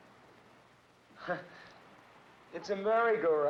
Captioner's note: Johnny laughs